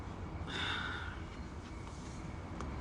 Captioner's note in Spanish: Suspiro